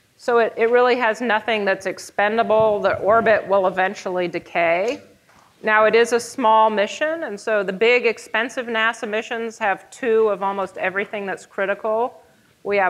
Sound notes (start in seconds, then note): none